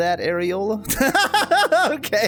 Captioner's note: laughs